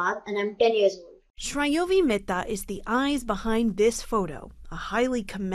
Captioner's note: voice-over